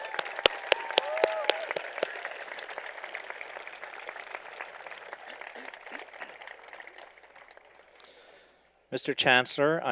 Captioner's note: applause